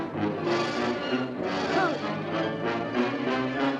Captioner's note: groans